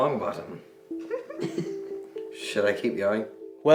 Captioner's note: chuckling